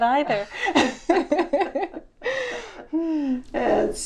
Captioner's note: laughs